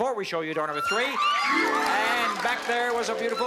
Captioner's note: cheering and applause